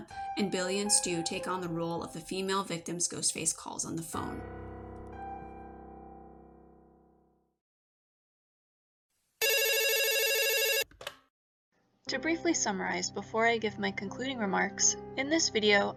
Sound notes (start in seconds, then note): 9.4 phone ringing, being picked up; 12.1 muffled, as if speaking through a phone